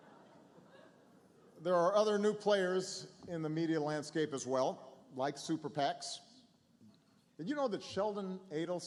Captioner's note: laughter